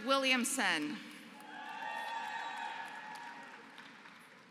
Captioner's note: applause